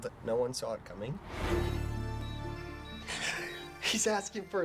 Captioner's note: monitor beeping steadily; shaky voice